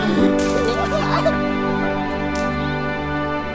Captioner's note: laughs; majestic music